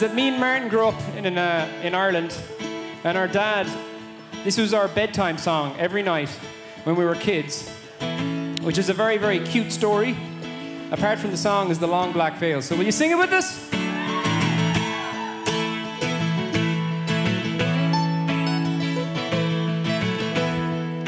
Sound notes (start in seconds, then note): 13.8 audience cheers; 16.4 midtempo folk music